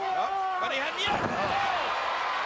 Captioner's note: wrestlers yelling